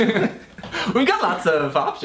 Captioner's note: laughs